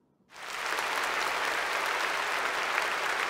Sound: applause

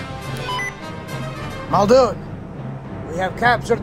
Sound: radio Beep Sound

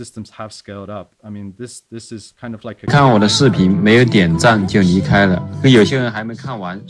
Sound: speaks foreign language

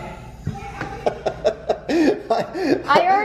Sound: laughing

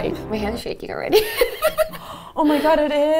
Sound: giggling

